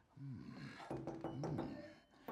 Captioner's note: hollow sound